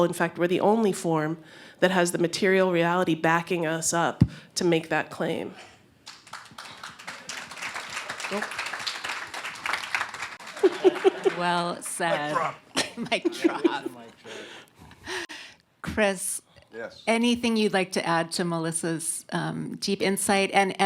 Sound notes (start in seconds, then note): 6.0 applause; 10.4 laughter; 12.7 chuckles